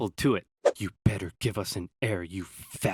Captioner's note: in a menacing tone